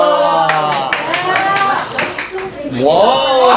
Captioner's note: clapping